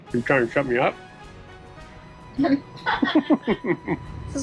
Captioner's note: laughing